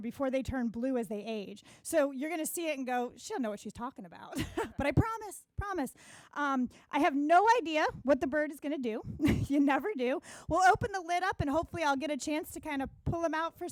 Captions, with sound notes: before they turn blue as they age. So you're gonna see it and go, "She don't know what she's talking about." (chuckles) but I promise, promise. I have no idea what the bird is gonna do. You never do. We'll open the lid up and hopefully I'll get a chance to kinda pull him out